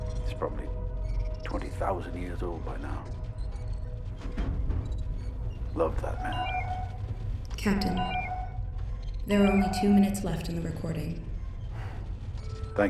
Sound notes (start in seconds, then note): 7.1 beeping